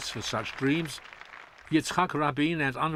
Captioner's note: applause